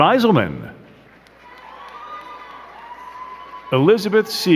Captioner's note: crowd cheering and clapping